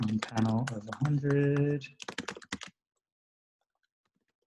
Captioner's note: typing